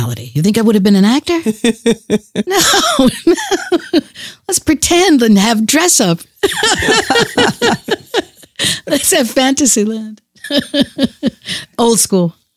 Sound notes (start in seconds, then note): 1.4 chuckles; 6.4 laughs